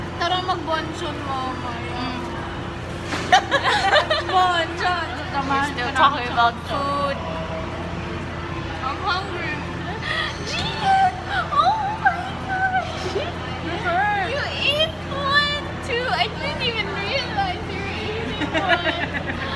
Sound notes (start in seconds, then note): 10.0 gasps